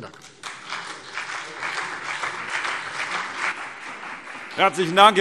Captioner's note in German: Beifall CDU und BÜNDNIS 90/DIE GRÜNEN